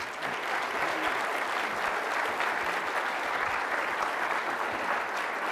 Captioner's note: applause